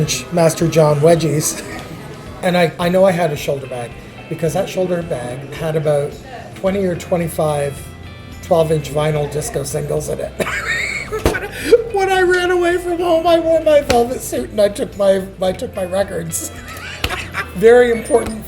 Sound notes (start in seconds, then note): 10.4 laughs